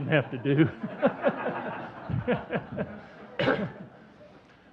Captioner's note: audience chuckling